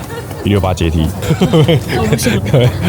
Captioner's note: laugh; exhausted laughter